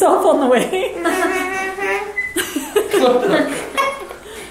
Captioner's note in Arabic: كلاهما يضحك